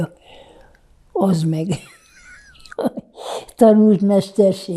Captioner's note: laughing